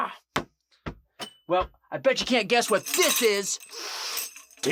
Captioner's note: sniffing noise